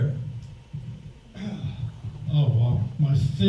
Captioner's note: sighs